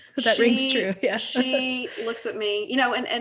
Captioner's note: laughs